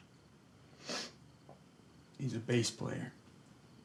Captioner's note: sniffles